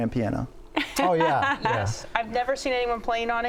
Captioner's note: laughs